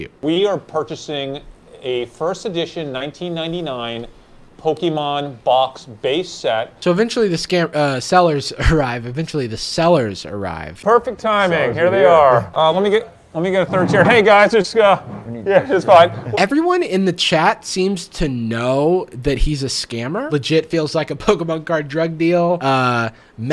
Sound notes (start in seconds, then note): 8.6 laughs